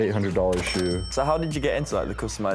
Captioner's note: cash register chimes